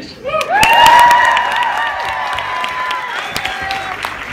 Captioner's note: cheers, applause